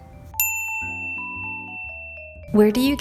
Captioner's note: bell dings